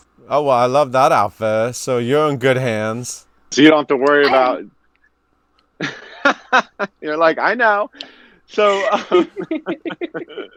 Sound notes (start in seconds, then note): 4.2 laughing; 8.6 both laughing